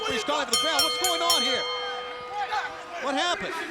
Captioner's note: bell rings